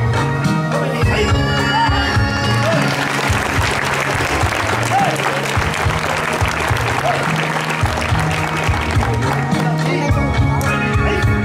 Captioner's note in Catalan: Aplaudiments